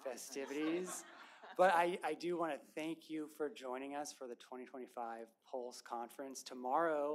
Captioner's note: laughter